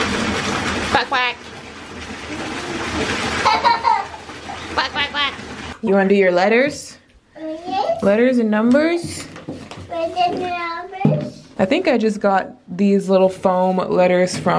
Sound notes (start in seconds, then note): 3.3 laughter; 10.3 baby talk